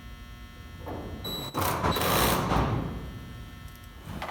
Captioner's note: drilling